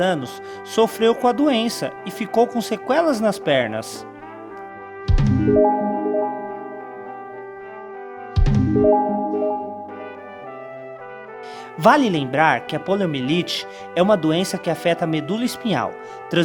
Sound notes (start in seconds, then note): 8.1 attention Beep